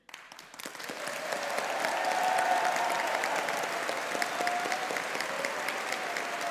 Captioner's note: audience applauding; audience cheering